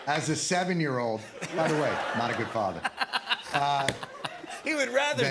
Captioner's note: laughter